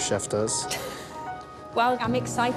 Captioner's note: laughs